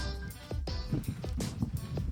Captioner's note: laughing